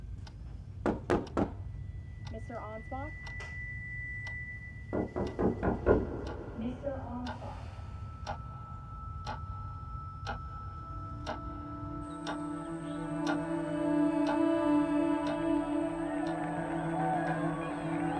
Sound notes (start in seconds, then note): 0.0 clock ticking; 0.0 drilling, buzzing music; 0.8 person knocks; 4.3 piercing, buzzing music; 4.9 person knocks; 7.8 ticking; 8.1 drilling, buzzing music; 13.0 buzzing music; 13.0 people applaud